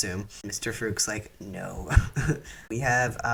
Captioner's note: laugh